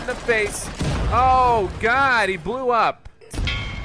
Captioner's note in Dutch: ontploffing